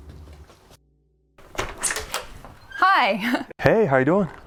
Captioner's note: door creaks